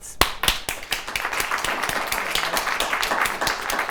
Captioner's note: applauding